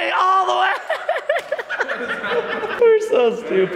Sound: laughing

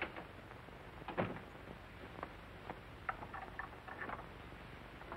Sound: door shuts

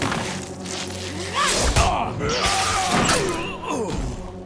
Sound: grunting, groaning

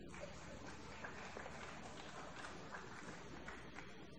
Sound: applause

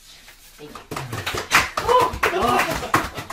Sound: applause

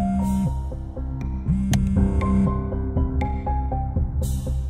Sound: mobile phone vibrating; switch clicks

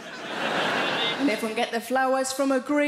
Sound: audience laughing

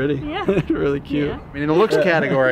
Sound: laughs

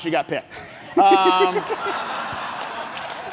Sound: laughs

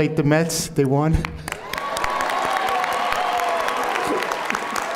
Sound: audience applauding

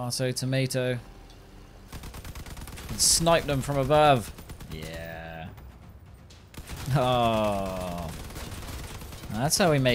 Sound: American accent

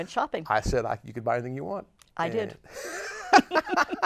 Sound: laughs

